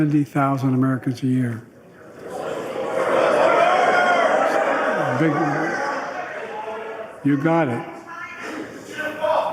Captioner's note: audience Screaming 'Border'